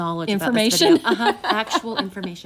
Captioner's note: laughs